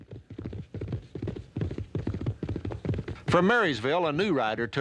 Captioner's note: horse galloping